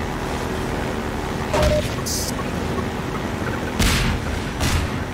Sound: bombs beeping; HEV suit beeping; bombs exploding

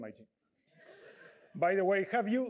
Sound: laughter

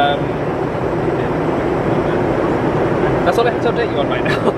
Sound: engine rumbling

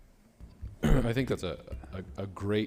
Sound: clears throat

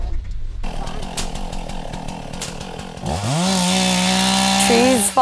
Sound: chainsaw noise

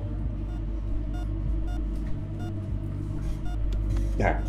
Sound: heart monitor beeps speed up

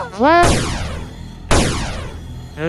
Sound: pew pew

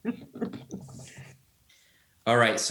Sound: chuckling

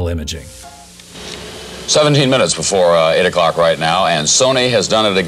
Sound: news voiceover

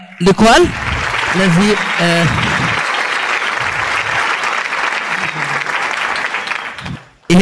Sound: applause

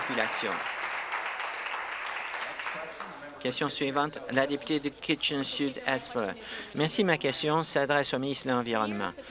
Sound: applause

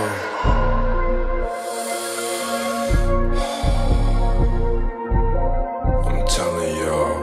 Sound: deep Breathing

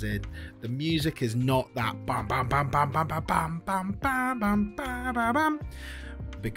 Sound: Bad Tony Bennet Impression

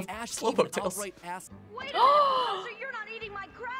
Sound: gasps

